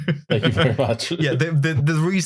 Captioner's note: chuckles